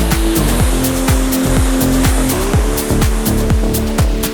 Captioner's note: EDM music; water swooshes